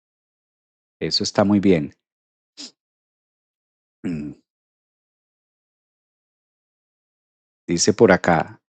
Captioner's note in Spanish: carraspeo